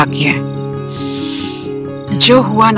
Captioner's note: Inhales